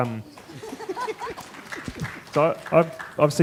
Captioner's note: applause